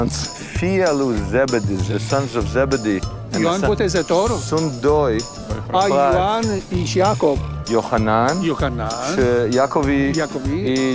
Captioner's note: speaking Romanian